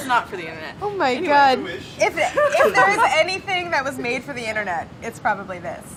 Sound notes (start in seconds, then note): 2.1 laughing